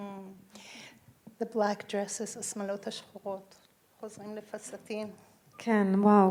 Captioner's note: speaking in foreign language